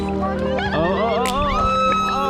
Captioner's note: indistinct Screaming